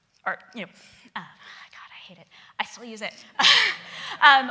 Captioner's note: laughing